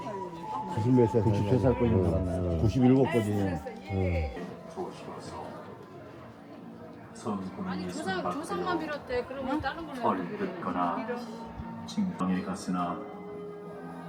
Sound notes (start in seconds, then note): 2.2 chatter